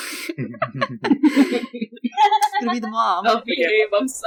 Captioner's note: laughter